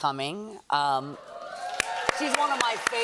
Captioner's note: cheers and applause